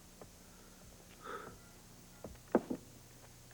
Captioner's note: sighs